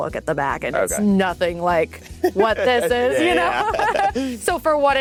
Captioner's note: laughs